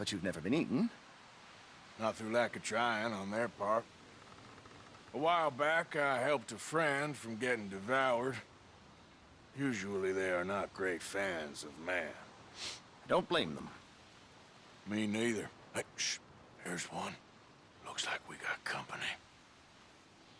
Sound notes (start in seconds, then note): 16.5 whispers